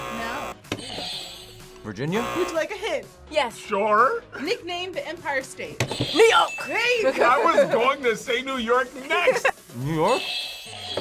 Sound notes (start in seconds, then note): 0.0 buzzer; 2.0 buzzer rings; 2.1 buzzer; 5.6 buzzer rings; 10.2 bell rings; 10.6 buzzer rings